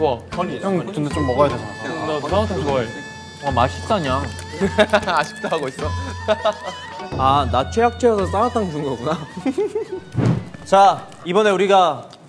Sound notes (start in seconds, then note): 4.5 laughing